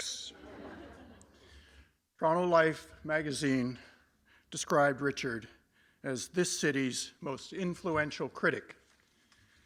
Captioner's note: laughter